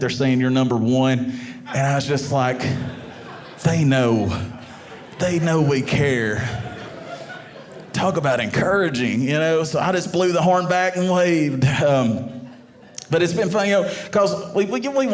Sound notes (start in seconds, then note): 6.2 audience laughing